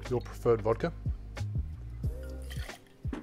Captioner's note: pouring